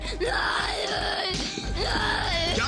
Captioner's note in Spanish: Llantos